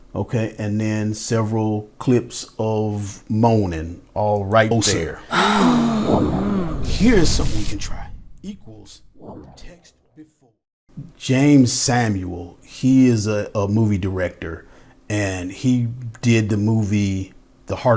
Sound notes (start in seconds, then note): 6.0 multiple sound effects